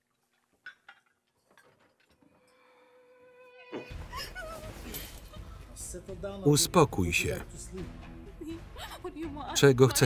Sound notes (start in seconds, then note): 2.8 screaming